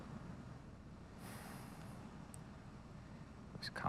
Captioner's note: sighs